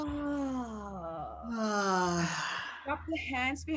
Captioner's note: exhaling audibly